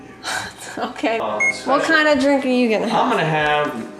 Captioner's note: laughing